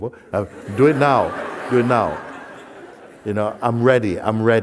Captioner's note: laughter